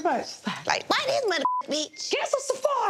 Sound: beep

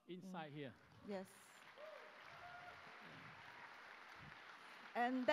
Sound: applause

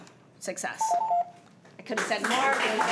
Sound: timer beeping

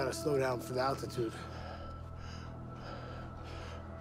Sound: panting

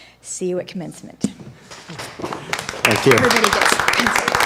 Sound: applause

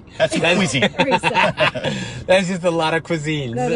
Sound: laughing

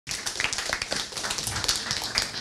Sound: applause

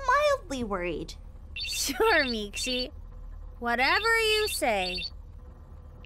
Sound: phone ringing

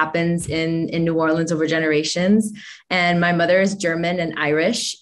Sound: none

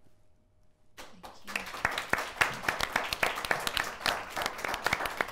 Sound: audience applauding

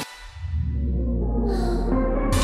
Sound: deep breath

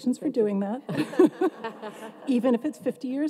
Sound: everyone laughs

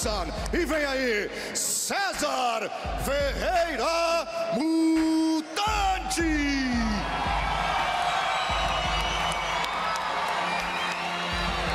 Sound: speaking foreign language

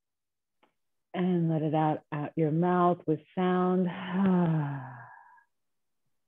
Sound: exhaling

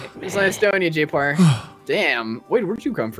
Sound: sighs

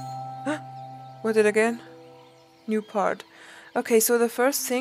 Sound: gasps

